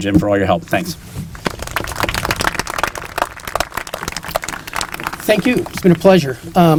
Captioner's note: applause